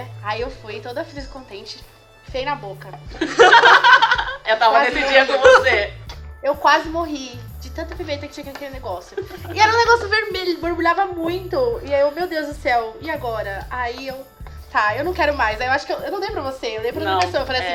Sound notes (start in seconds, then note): 9.2 holding tears